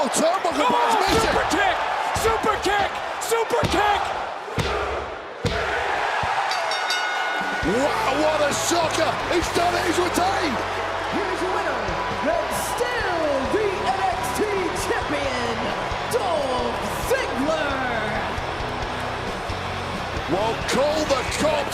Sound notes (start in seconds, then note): 7.7 crowd chant, "one, two, three"; 8.9 bell rings